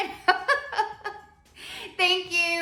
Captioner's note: laughs